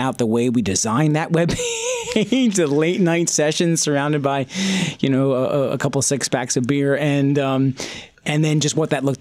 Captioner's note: laughs